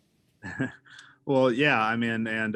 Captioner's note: laughing